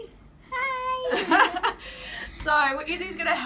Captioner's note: giggles